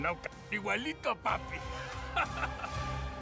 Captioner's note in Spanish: risas